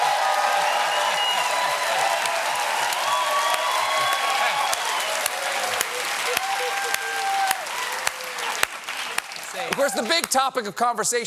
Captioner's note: cheers and applause